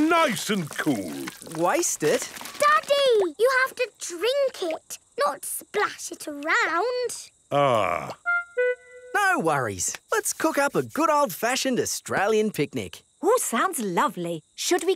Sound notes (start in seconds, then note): none